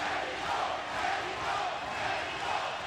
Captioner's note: audience chanting "pacquiao!"